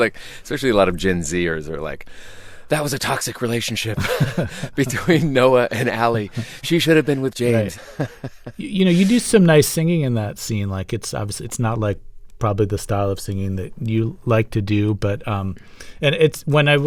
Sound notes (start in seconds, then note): 4.0 laughter; 7.6 laughter